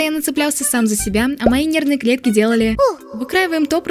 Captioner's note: poof